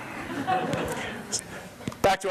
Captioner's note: audience laughs